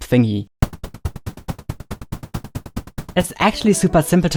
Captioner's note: digital sounds